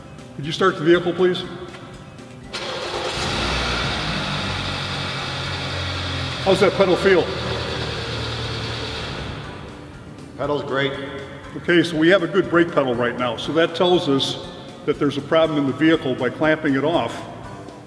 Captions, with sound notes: Could you start the vehicle please? (Engine starting) How's that pedal feel? Pedal's great. Ok so we have a good brake pedal right now, so that tells us that there's a problem in the vehicle, by clamping it off